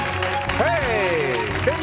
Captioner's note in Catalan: aplaudiments